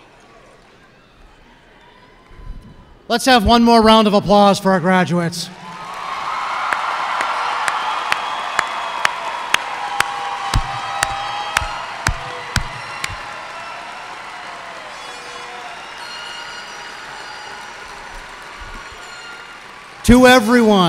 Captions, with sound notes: Let's have one more round of applause for our graduates. [cheers and applause]